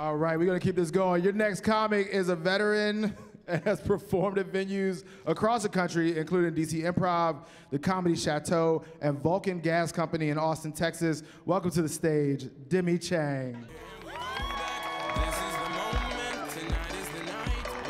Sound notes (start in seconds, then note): 13.5 upbeat music; 13.7 cheering